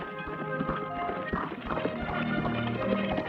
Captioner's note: horse trotting